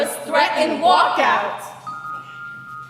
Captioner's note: ringing